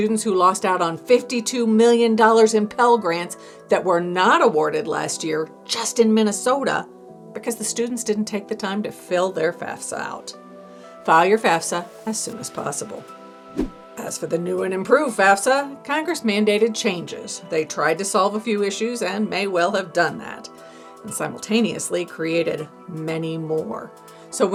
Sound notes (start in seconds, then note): 13.5 air whooshing